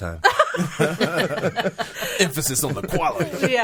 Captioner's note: all laughing